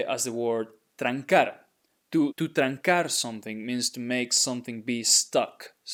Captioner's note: speaking in Spanish